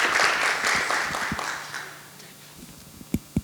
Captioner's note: audience applauds; applause fades